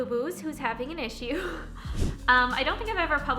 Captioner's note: chuckles